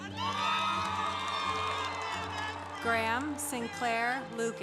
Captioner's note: congregation applauding